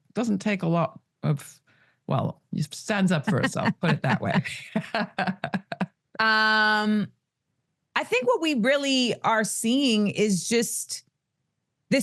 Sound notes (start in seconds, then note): 4.8 Amanda and Laura laugh